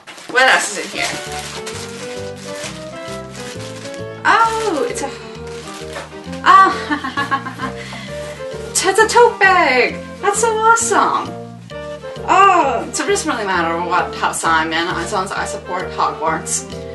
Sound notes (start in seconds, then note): 2.2 crinkling of plastic; 6.6 small awkward laugh